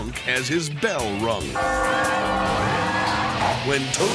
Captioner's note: bell dings; crowd clamoring